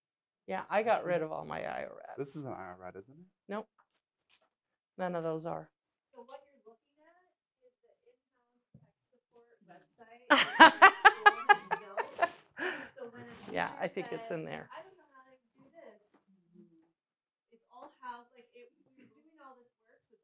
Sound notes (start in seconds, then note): 10.3 laughter